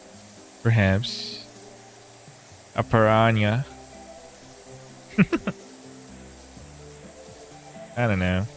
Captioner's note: laughter